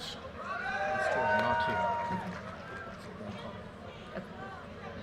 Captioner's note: audience cheers and applause